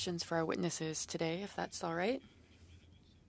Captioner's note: speaking French